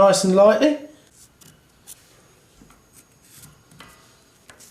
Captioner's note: pencil scratches